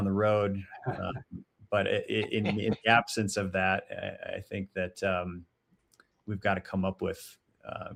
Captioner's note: chuckles